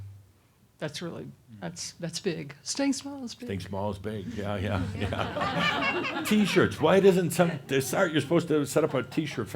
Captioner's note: some chuckles